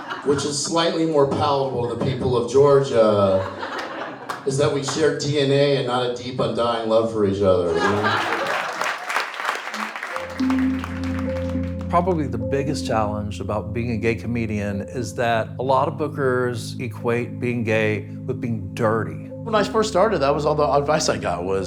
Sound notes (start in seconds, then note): 0.0 audience laughs; 7.7 audience laughs and applauds; 10.4 somber music